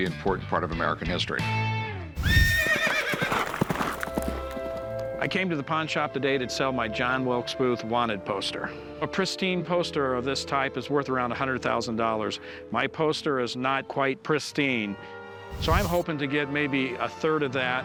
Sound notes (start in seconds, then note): 2.1 horse neighs; 2.2 running hoof beats